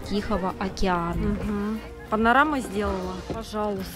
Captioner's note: normal voice